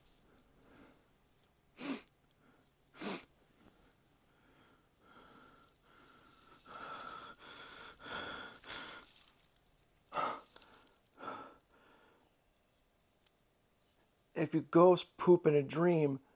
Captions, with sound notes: *sniff* If you ghost poop in a dream